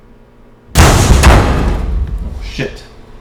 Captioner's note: loud explosion of overheated soup & coffee